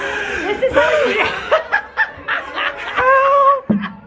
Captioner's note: laughing